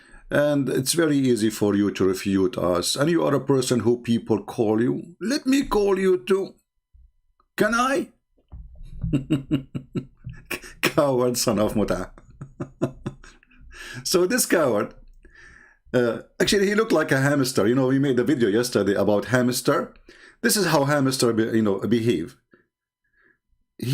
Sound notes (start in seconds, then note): 8.8 gelak